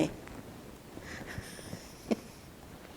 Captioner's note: laughing